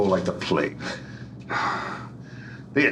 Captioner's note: sighs